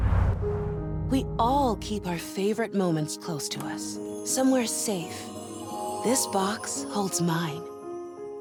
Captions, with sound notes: [warm female voice] We all keep our favorite moments close to us, somewhere safe. This box holds mine.